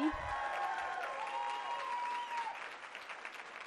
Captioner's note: cheering and applause